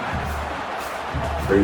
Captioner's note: crowd Noises